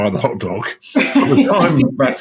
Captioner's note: laughing